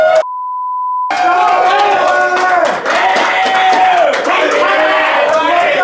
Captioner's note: group cheering; shouting and cheering